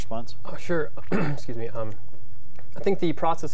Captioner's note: clears throat